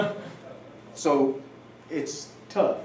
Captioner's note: laughter